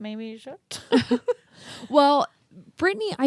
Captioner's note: both laugh